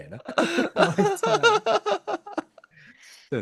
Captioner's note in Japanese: 笑い